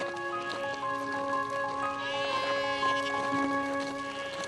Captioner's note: goats bleep